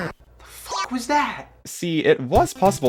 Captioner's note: meow